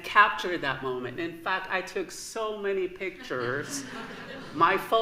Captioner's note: laughter